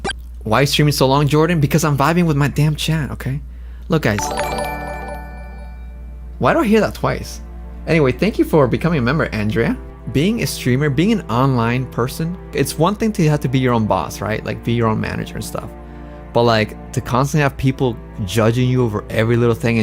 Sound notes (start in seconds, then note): 4.2 double notification sound